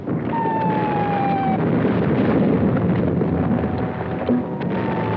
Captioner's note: missiles whistling